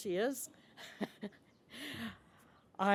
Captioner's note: chuckles